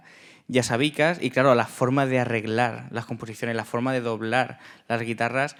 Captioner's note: speaking in Spanish